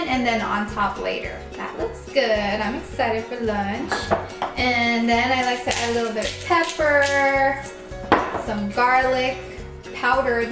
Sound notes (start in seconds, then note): 3.6 scraping